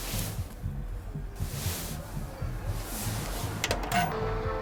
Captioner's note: party revellers jeer distantly